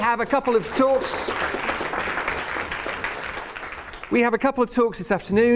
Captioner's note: applause